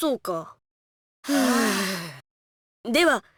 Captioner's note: relieved sigh